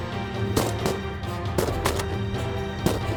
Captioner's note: gun shots; gun shots